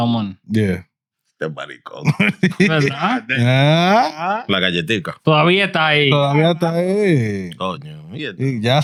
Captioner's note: speaking In Foreign Language